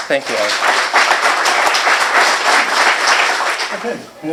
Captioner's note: applause